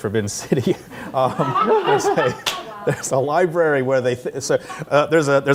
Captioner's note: laughter